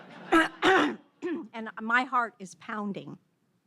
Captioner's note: audience laughs